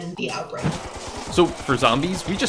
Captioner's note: automatic gunfire